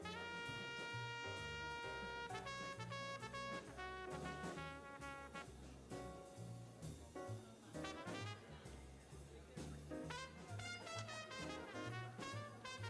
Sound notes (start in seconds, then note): 3.5 people chattering; 3.5 upbeat jazz music continues